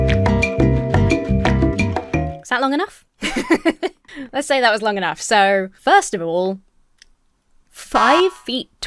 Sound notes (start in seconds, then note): 3.2 laughs; 7.5 buzzer buzzes